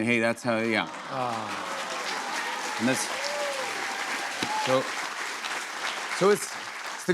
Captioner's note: cheers and applause